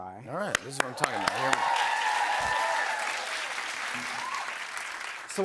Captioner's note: cheers and applause